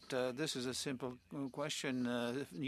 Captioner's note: speaking French